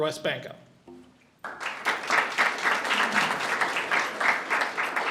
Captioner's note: audience applauds